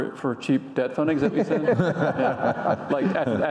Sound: audience laughing

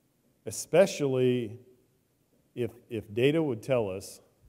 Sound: none

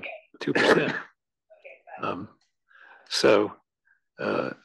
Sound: cough

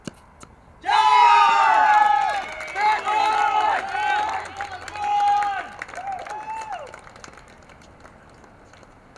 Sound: audience applauses and cheers

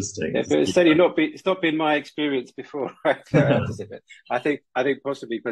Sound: laughs

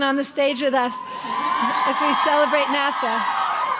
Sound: crowd cheering

